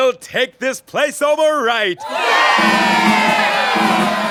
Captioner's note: cheering